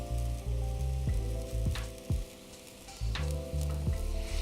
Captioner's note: sauce sizzles